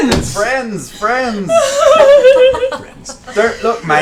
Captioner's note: laughs